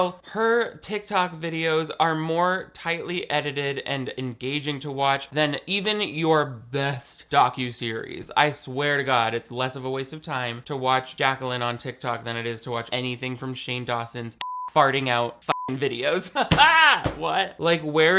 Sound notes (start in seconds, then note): 14.4 beep; 16.3 laughs